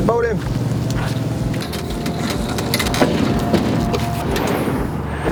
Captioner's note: trailer ramp creaking